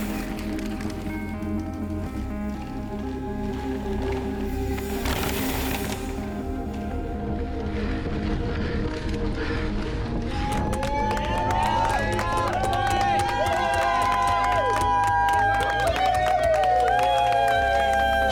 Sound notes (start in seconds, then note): 10.3 teammates applauding; 10.3 teammates cheering